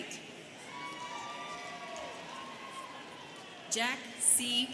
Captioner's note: students cheering